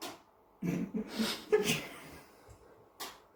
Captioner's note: attempts to hold back laughter